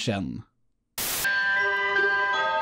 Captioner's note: white noise